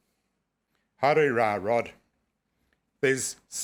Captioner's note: speaking foreign language